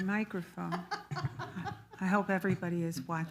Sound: laughs loudly

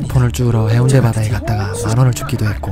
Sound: heh↗hehehe↘hehe

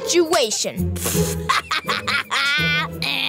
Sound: laughing

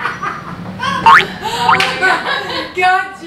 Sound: silly spring noise

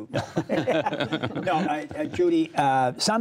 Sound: laughter

